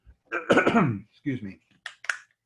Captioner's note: clearing throat